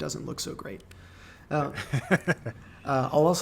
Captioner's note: laughing